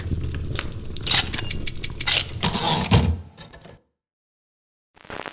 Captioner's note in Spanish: Ruidos mecánicos y retorno de carro de una máquina de escribir